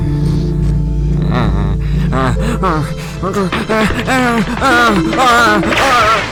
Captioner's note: increasing panic noises; lightning strikes and increasing panic noises? what do i even write here